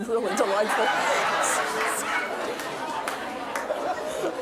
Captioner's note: audience laughs